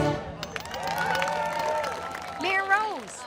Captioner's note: crowd cheers